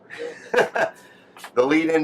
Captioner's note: laughs